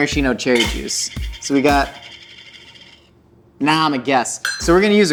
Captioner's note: lid clatters